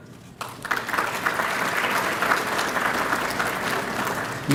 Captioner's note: applause